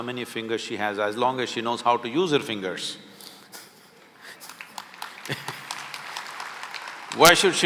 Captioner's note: laughs; applause